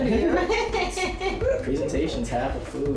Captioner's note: laughing